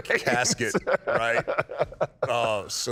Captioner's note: Kane laughs